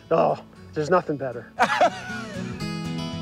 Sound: laughing

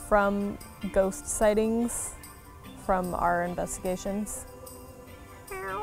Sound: meowing

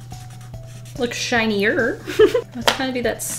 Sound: giggles

